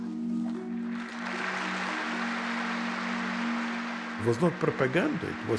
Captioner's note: audience applauds